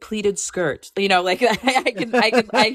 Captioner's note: laughter